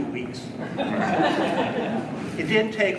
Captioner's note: audience laughing